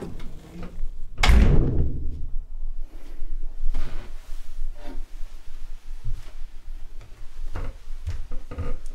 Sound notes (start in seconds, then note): 1.1 door closes